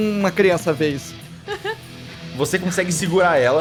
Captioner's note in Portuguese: risada